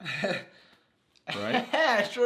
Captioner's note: laughs